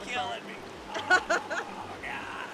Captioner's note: laughs